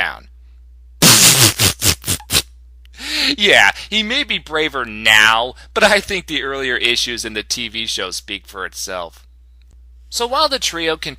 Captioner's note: snicker